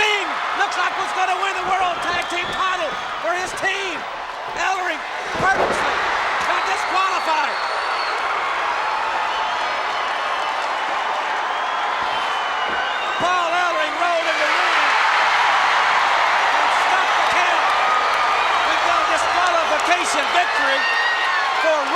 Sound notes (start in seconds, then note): 7.8 crowd cheer; 14.8 crowd cheer